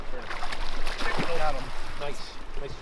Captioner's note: fish splashes